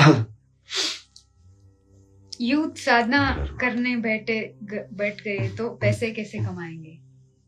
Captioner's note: नाक से की जाने वाली आवाज़